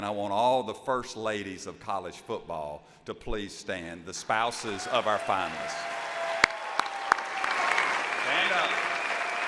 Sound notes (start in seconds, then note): 4.6 audience applauds